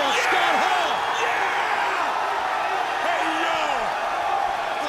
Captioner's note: crowd cheering